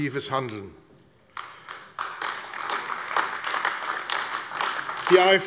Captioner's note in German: Beifall AfD